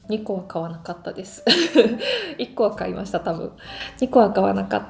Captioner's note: laughs